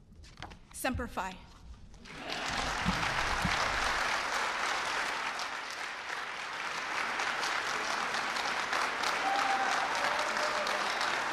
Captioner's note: applause and cheers